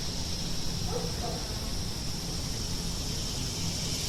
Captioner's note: dog barking